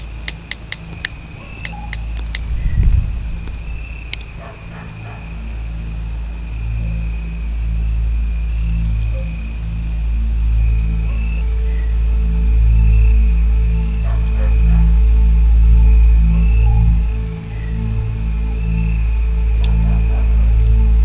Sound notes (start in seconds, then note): 0.3 ominous music; 4.3 dog barks